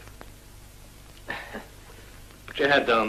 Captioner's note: nervous laugh